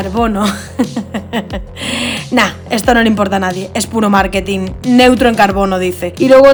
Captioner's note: you laugh